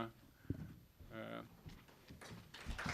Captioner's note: applause